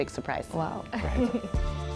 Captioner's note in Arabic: يضحك